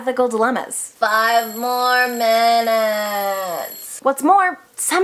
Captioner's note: alarm